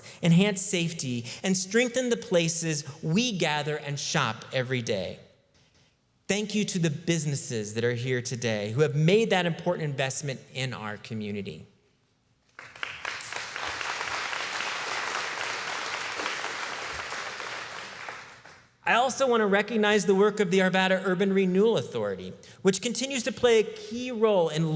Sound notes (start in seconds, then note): 12.5 applause